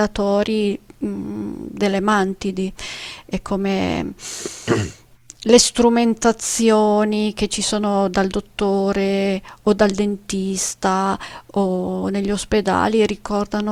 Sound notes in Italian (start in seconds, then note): 4.6 schiarire la voce